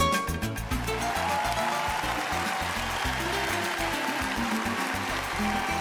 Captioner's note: cheering